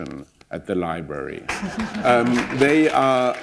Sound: applause

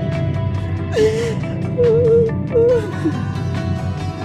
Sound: crying

